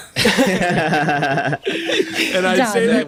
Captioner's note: laughter